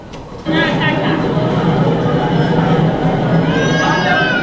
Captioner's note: crowds talking